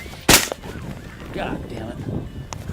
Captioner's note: gunshot